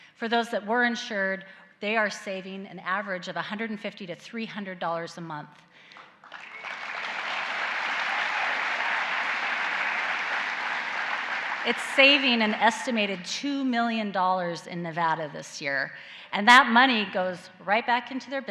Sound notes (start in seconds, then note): 5.9 applause